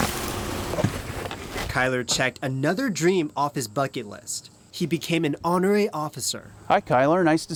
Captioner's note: door opens